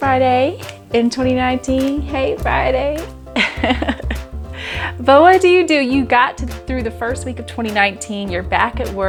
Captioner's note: laughs